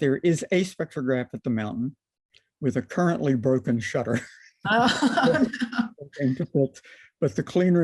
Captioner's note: laughter